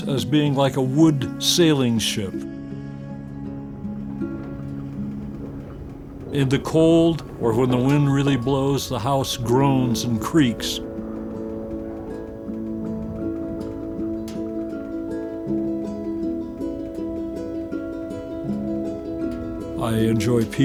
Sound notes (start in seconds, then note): 4.3 house rumbles; 11.2 gentle music; 11.2 house creaking